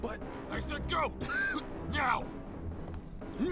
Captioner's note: cough